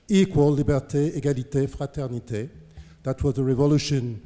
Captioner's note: french